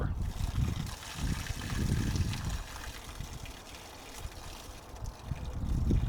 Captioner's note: water splashing